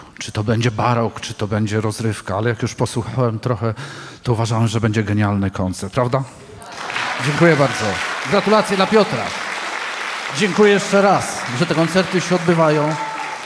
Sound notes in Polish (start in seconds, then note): 9.6 oklaski